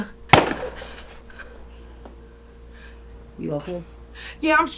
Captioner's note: gun shoots